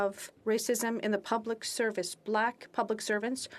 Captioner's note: speaking French